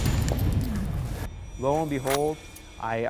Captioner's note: gunshot